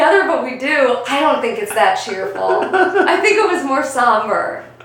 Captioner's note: still laughing off-camera